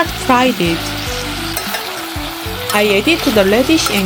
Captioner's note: sizzle sizzle